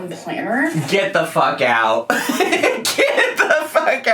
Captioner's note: laughs